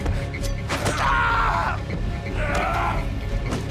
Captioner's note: man yells in pain; men grunt